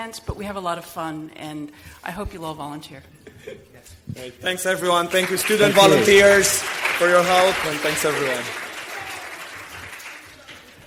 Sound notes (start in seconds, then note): 8.6 audience applauding